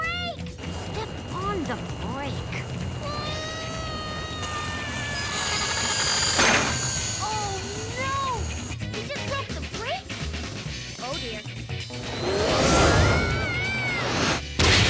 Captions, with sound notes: - Step on the brake? (Owen screaming) (metal grinding) - Oh no! He just broke the brakes? Oh dear.